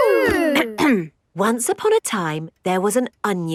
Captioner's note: clears throat